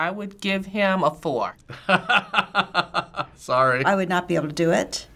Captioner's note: laughing